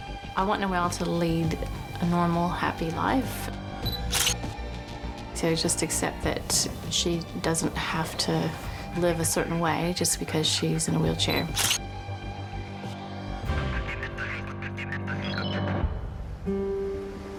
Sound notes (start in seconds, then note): 4.0 camera shutter sound; 11.5 camera shutter sound; 16.2 sound of the sea and waves